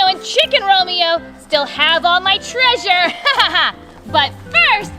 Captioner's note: laughs